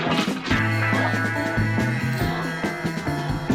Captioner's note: strained sounds